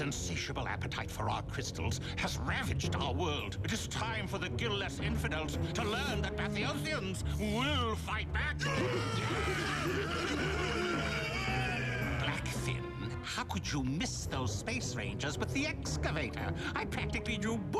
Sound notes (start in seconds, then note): 8.6 crowd roars